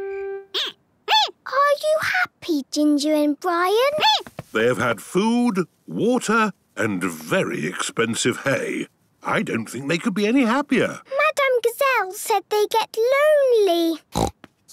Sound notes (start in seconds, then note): 0.2 squeaking; 14.1 snorting